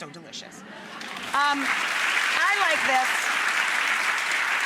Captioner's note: audience applauds